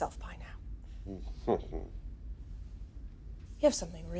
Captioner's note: Nash chuckles